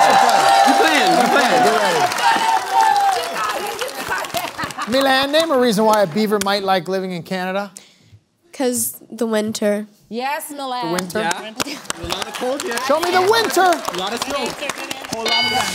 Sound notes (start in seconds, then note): 2.4 applause